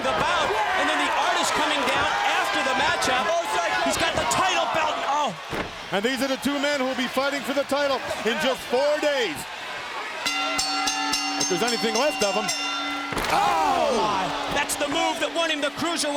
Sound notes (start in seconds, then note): 10.2 bell ringing